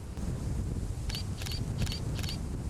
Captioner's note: camera clicks